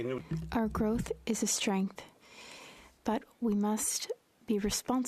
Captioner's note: speaking French